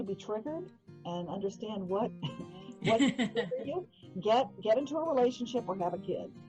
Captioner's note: laughing